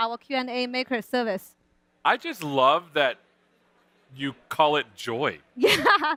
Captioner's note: laughter